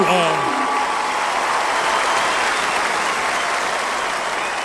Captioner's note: crowd continues cheering